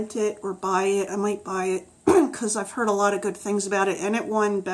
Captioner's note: clears throat